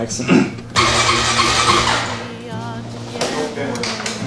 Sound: engine cranking; indistinct conversation

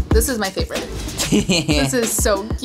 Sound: laughs

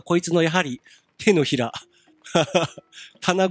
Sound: giggle

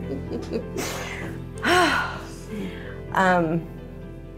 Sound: laughs; sighs

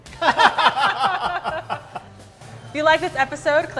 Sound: all laugh

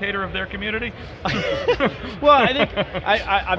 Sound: laughter

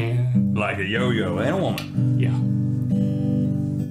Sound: tongue click

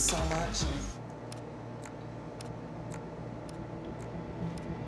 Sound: clock ticks

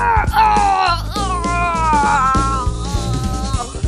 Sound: oof

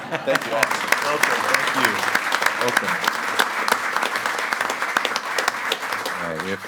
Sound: group laughing; group applauding

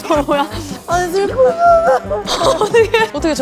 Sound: sobbing

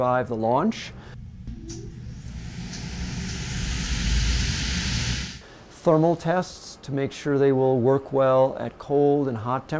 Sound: sound of vibration test

